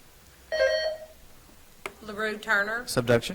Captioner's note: buzzer trills